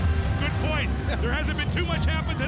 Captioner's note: Tony chuckles